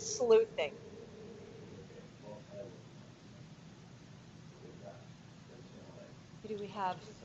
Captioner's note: static, muffled words